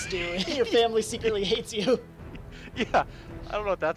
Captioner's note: laughs